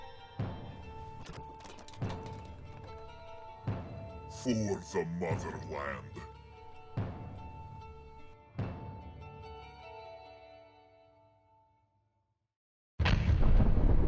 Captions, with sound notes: [thump] For the Motherland